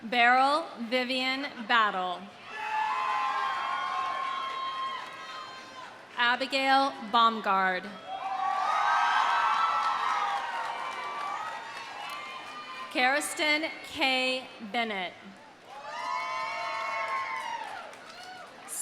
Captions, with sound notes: Beryl Vivian Battle. (audience cheering) (audience applauding) Abigail Baumgard. (audience cheering) (audience applauding) Karastyn Kay Bennett. (audience cheering) (audience applauding)